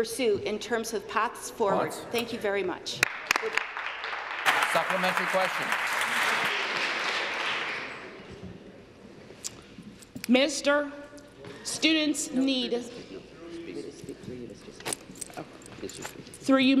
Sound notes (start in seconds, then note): 6.2 applause